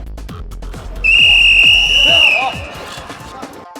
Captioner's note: whistle